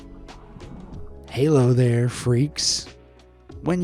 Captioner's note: in normal voice